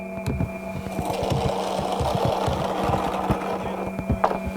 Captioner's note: board scraping